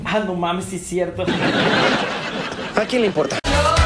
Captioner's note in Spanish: Risas